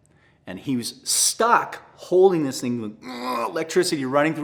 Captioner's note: grunts